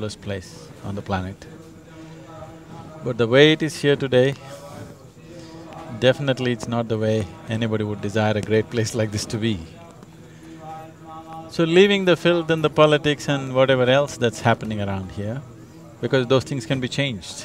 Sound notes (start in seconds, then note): none